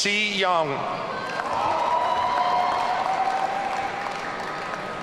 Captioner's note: audience cheering